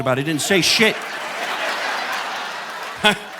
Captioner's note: audience laughing; chuckles